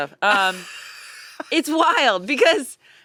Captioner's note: laughs